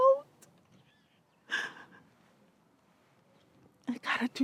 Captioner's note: sobs